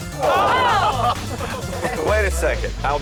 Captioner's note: lalaugughthterer